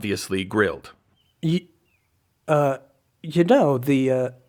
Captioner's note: stammering